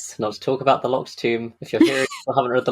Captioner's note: laughs